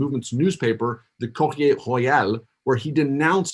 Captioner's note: foreign language